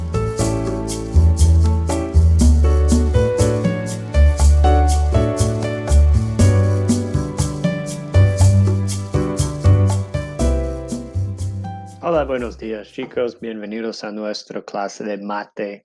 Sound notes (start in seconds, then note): 12.0 in foreign language